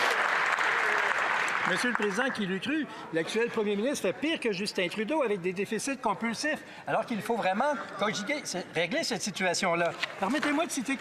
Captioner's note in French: applaudissements